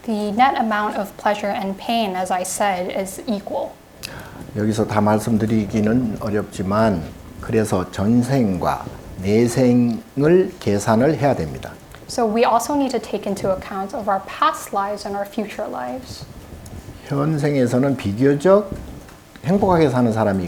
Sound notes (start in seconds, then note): 4.9 speaking Korean; 16.8 speaking Korean